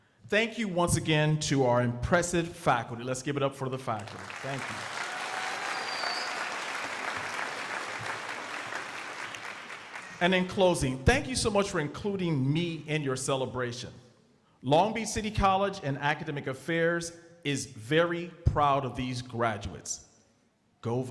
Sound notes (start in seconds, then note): 4.0 crowd applauding